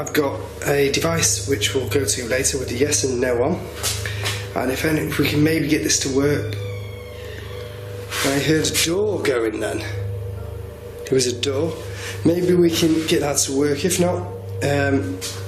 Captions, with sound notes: I've got a device which we'll go to later with the yes and no on. And we can maybe get this to work. (door creaking) I heard a door going then. It was a door. Maybe we can get that to work. If not...